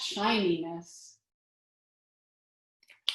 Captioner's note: silence